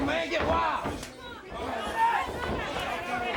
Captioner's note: crowd cheering